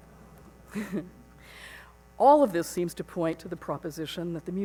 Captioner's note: chuckles